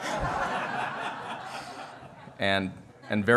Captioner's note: laughter